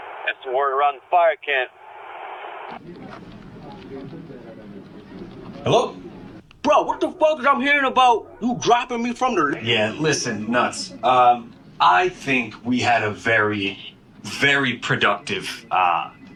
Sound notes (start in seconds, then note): 1.9 background city noise; 2.7 background office noise